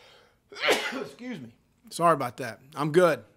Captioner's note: sneezes